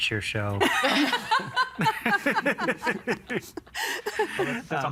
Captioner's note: all laughing